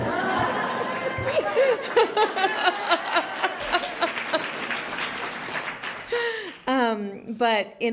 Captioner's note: laughter